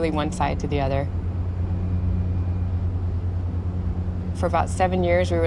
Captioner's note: rumble of engine